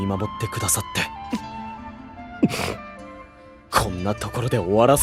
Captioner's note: sniff